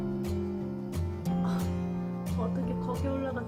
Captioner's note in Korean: 한숨